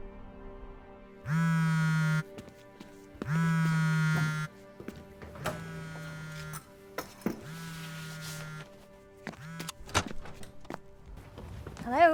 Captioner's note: cell phone vibrating